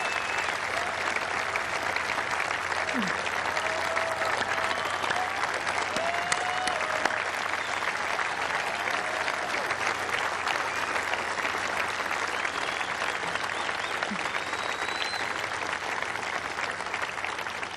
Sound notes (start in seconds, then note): 0.9 applause